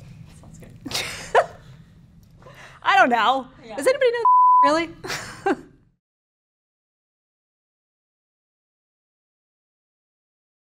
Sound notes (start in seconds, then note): 0.3 voiceover; 2.1 laughing; 4.2 beep